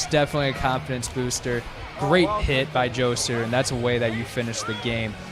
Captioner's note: crowd cheering